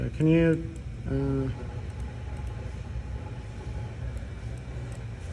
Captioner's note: mouse clicking